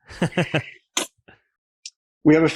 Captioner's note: laughs